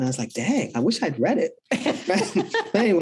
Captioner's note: both laugh